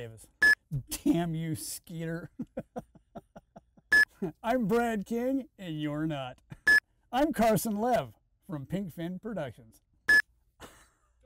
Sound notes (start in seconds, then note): 2.0 laughs; 3.9 screen beeps; 10.0 screen beeps; 10.6 laughing